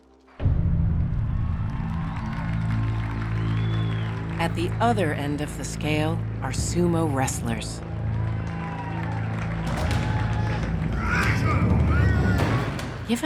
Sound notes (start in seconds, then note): 1.0 audience cheering; 7.8 audience cheering; 10.9 men grunting